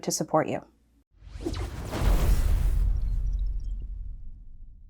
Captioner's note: digital explosion